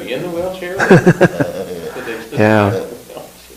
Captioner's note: laugh